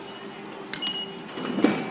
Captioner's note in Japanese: 自動改札機通過音